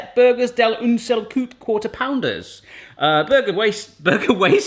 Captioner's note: speaks foreign language